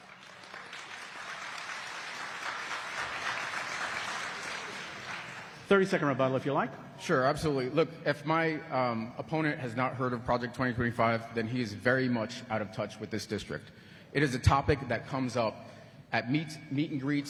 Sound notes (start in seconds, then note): 3.1 applause